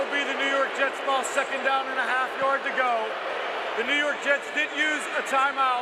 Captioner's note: booing